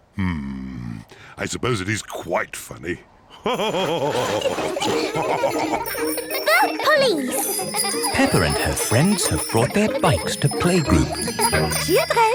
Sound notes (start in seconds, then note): 3.6 all laugh